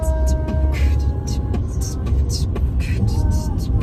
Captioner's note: beatboxes